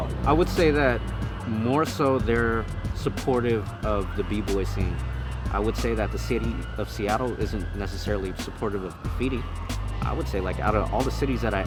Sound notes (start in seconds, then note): 6.6 police sirens wail distantly